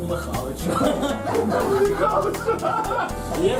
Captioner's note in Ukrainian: сміх